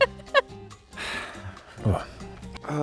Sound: laughs; sighs

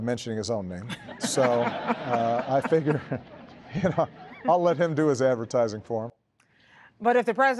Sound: laughter

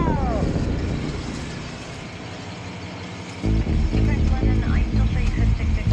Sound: siren blaring

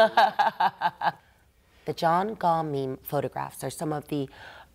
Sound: laughter

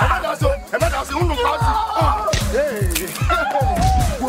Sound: henchman yells

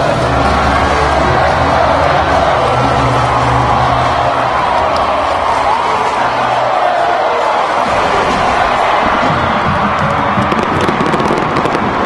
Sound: students cheering

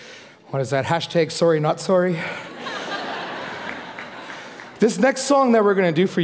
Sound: laughing

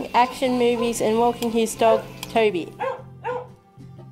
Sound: dog barking

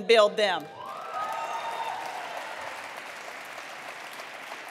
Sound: attendees applauding

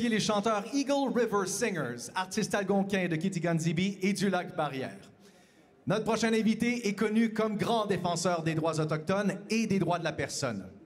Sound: speaking French

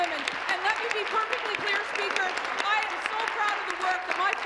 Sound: applause

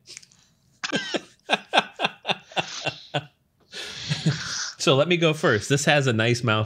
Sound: laughs

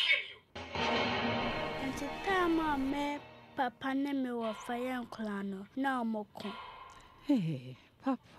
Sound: in Twi

